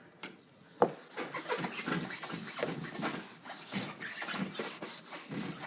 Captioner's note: erasing whiteboard